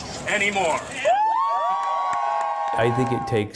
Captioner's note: cheers